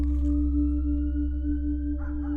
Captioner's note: distant siren